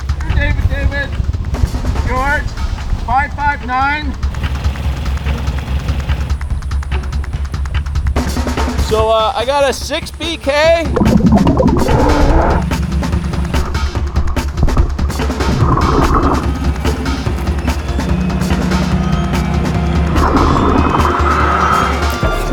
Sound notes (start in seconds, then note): 4.4 motor boat whirring; 6.2 dramatic action music; 11.1 oxygen bubbling in water; 13.1 dramatic action music continues; 20.3 oxygen bubbling in water